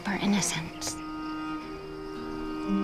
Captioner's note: calm music playing; birds chirping